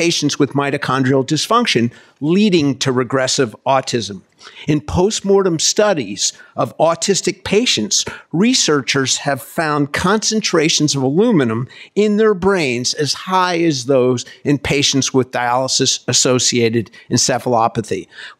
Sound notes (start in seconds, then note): none